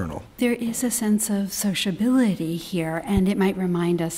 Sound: voiceover

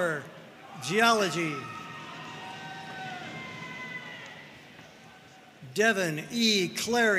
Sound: audience cheering and applauding

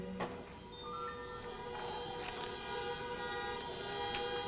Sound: cars honking

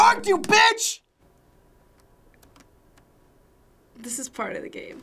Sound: silence

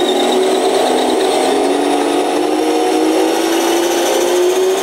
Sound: engine whining

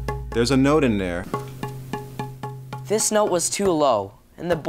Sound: low, hollow tapping

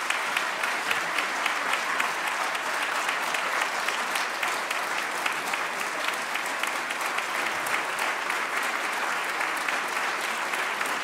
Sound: applause

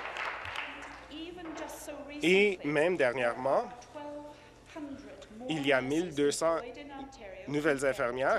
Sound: applause

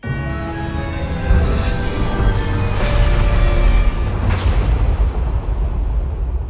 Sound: spooky music; thunder rumbling

